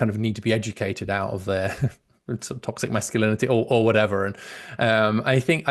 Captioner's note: laughs